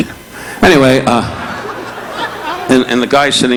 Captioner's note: audience laughing